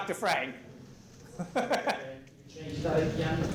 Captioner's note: laughs